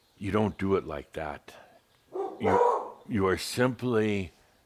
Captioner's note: Belle barks again